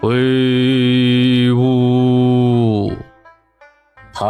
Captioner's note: sobbing